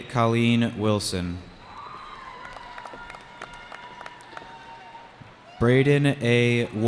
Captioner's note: cheering